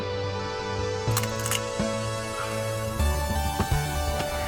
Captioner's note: clicking sounds